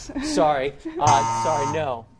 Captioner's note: buzz